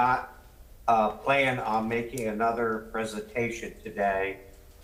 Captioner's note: ~audio distortion~